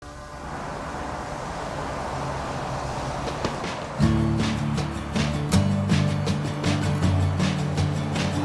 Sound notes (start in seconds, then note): 0.0 traffic noise; 0.7 upbeat music